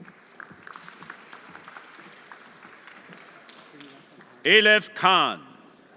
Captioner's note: everyone applauding